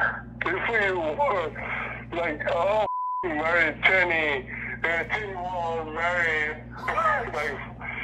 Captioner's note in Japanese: 英語